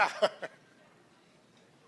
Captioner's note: laughs